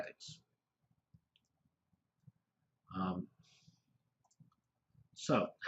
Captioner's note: pause